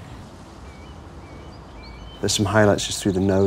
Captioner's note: birds chirping